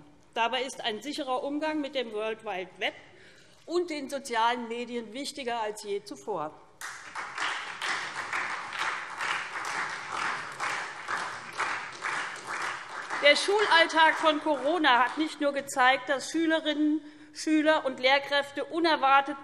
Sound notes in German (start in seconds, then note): 6.8 Beifall SPD